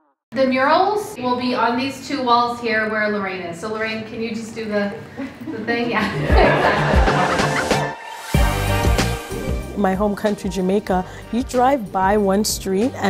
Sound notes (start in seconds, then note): 6.8 colleagues laughing; 8.8 ambient music